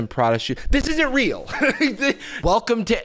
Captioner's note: laughs